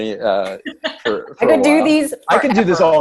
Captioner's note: laughs